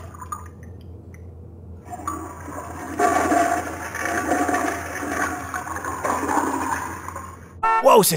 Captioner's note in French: Bruit de chasse d'eau